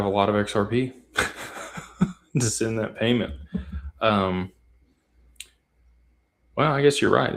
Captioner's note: laughter